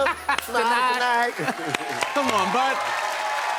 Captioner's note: cheers and applause